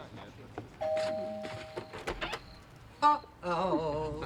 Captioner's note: door bell chimes